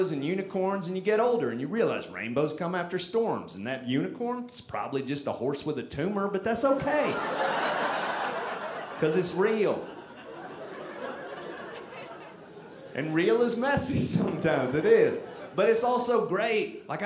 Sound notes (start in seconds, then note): 7.3 audience laughing; 10.0 audience laughing